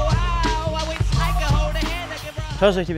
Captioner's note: Sprühgeräusche